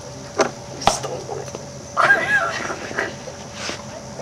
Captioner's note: screams